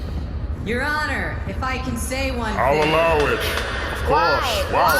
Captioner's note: banging gavel